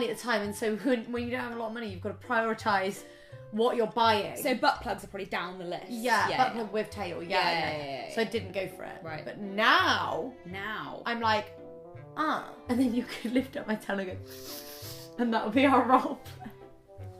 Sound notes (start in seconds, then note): 14.2 sniff